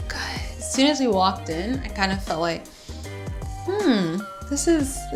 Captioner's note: breathes